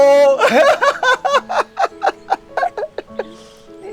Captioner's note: both laughing